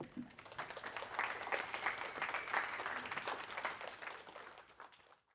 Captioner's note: applause